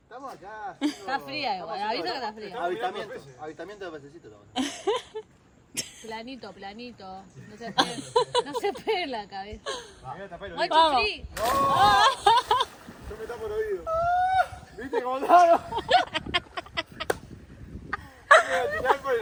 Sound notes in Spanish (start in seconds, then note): 12.3 Risas